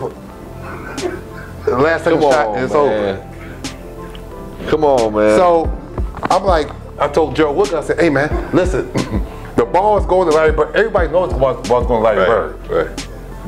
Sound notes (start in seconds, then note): 0.5 laughing